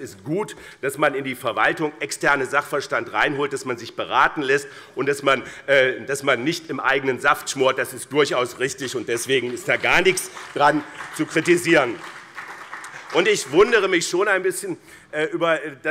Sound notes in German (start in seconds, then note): 11.9 Beifall BÜNDNIS 90/DIE GRÜNEN und vereinzelt CDU